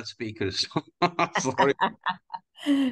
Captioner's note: laughs